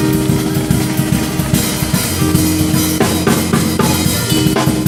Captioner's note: audience cheering